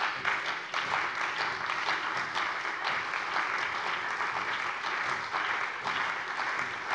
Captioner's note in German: Beifall bei der CDU und dem BÜNDNIS 90/DIE GRÜNEN